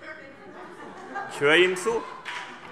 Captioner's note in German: Heiterkeit